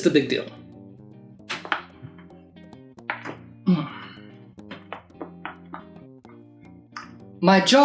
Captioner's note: series of distrubingly loud popping sounds